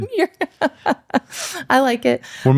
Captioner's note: laughs